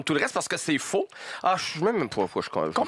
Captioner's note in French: Il marmonne